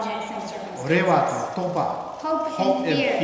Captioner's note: speaking tibetan